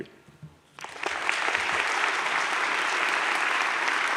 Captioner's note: audience claps